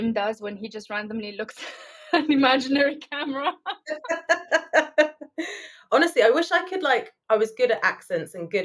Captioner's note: laughing